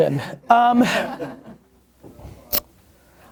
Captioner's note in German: Lachen